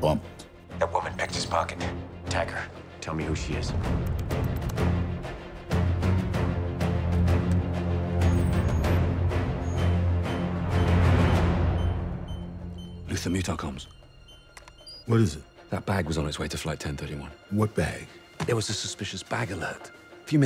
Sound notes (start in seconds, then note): 8.2 beeping